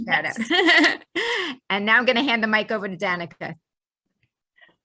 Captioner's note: laughs